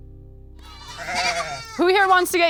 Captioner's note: animals calling